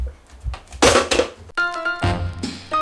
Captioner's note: bang